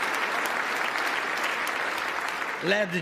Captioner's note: applause